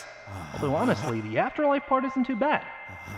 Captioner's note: heavy anime breathing